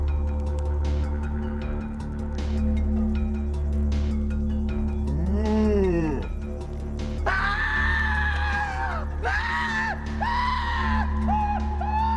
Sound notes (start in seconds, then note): 4.8 moans; 7.2 screams